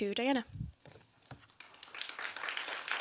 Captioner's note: applause